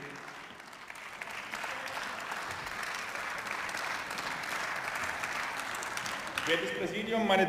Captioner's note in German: Beifall